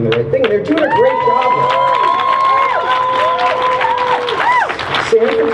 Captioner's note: crowd cheers